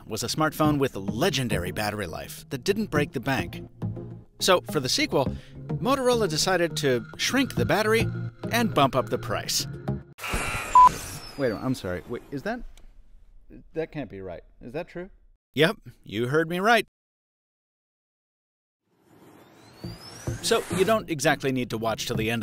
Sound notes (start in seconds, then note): 0.0 voiceover; 16.3 voiceover